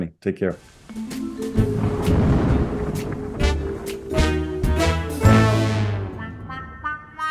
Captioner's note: light intriguing music; thunder rumbles